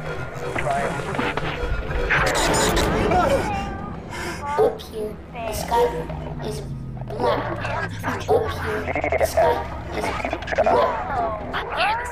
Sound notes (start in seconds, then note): 2.8 yelps